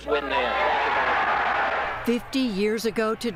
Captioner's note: cheering and applause